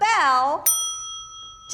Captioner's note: bell dings